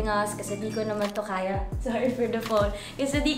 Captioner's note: phone chimes